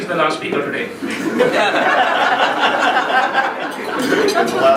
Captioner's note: laughing